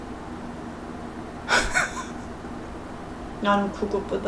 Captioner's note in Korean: 실소